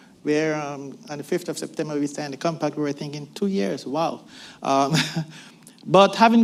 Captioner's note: laughs